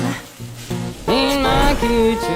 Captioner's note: meat sizzling